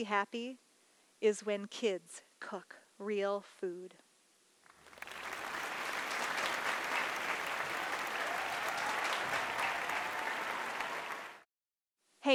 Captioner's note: applause